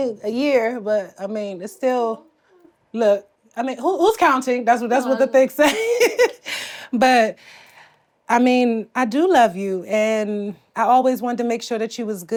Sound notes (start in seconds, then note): 5.0 laughs